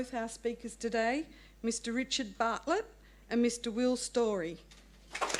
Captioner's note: applause